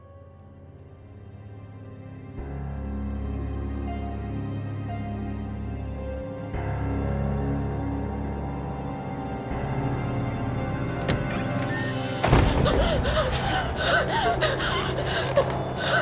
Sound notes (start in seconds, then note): 11.0 door creaks open; 11.3 gasping